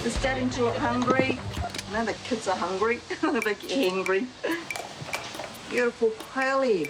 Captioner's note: laughs